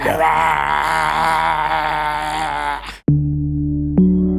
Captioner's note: growling